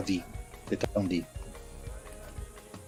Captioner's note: speaks in French